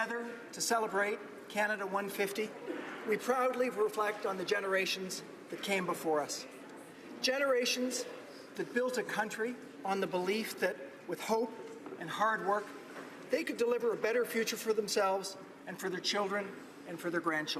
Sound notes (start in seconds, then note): none